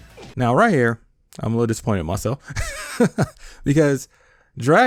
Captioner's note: laughs